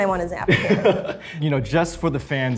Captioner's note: laughs